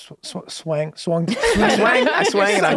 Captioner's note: laughter